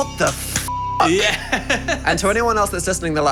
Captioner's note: beep; laughing